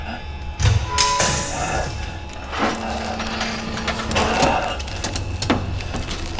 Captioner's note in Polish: otwarcie drzwi